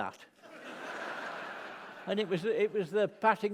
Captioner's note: laughter